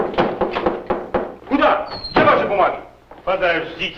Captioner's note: knocking; foreign language